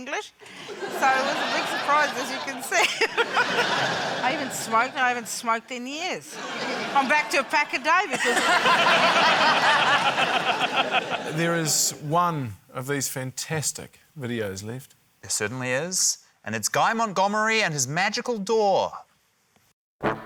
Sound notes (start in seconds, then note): 0.0 laughs; 3.5 laughs; 10.3 laughter